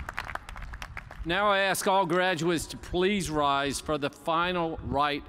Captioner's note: cheers and applause